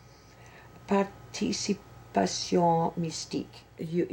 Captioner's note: speaks foreign language